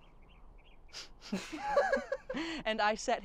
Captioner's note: laughing